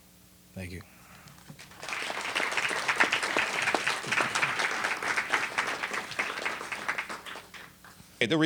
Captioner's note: applause